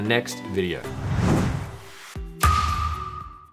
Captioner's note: air whooshes